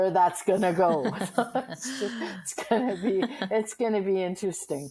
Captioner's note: laughing